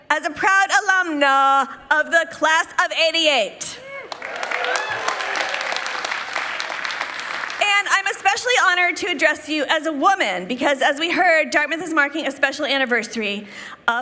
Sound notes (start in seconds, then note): 4.0 people clapping